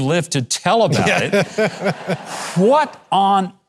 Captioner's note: Pat laughing